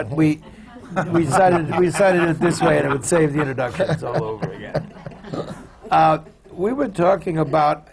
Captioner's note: laughter